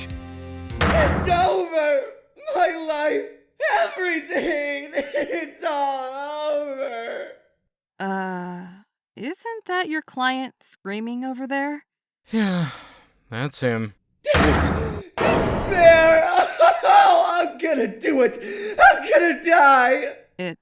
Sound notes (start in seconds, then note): 0.9 screaming in the distance; 5.3 screaming in the distance; 14.3 screaming in the distance